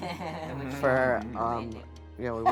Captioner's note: laughing